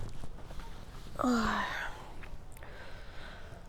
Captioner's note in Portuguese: Suspiro